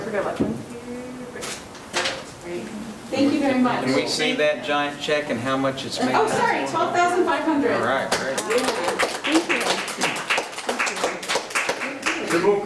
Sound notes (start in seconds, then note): 8.1 attendees applauding